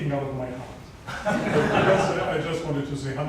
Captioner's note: audience laughs